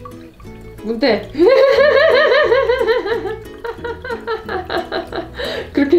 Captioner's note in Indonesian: tertawa